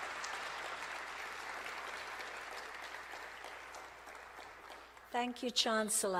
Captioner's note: applause